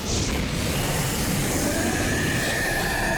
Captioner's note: shrieking